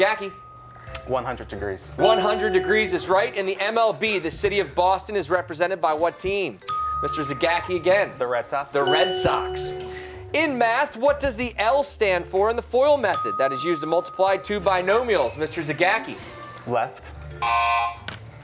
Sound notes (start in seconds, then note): none